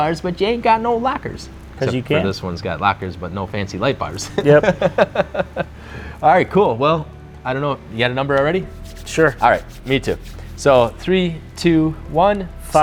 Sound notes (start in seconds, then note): 4.1 laughs